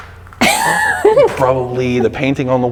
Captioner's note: laughs